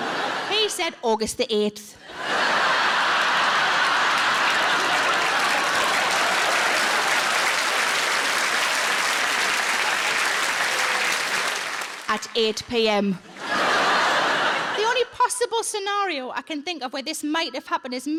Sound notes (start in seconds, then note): 2.3 audience laughs; 4.7 audience applauds; 13.2 audience laughs